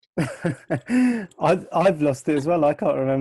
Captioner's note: laughs